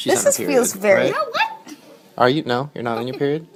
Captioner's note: laughs